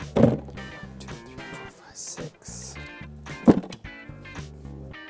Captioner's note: counts under breath